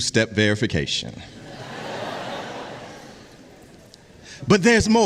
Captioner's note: audience laughs